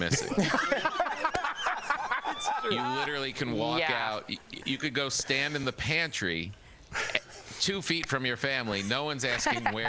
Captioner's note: laughter